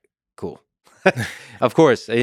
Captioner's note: Lex laughs; Tim laughs